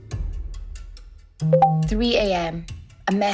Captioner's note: message vibration